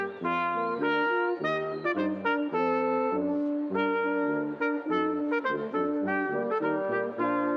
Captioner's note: none